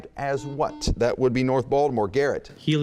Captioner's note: buzzing